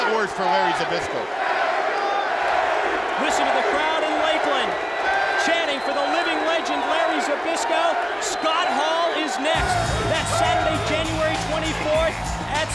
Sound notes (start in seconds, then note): 2.3 crowd cheering